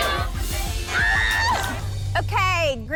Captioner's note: girl screams